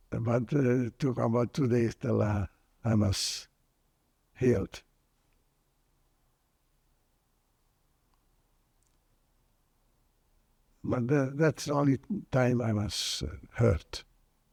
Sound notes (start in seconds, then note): 4.8 pauses 6 seconds